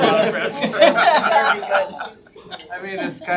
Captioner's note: all laughing